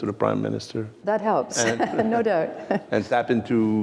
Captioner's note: laughter